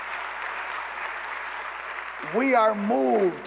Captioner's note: applause